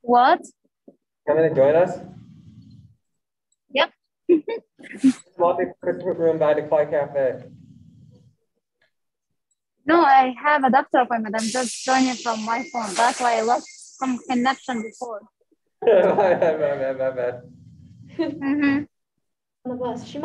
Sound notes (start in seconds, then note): 15.8 laughing